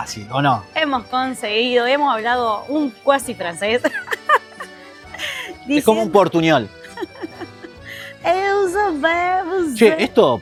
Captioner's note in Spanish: risas